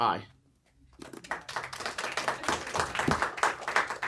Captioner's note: applause